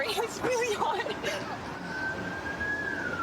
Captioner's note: siren wailing